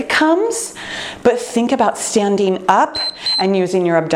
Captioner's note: timer beeps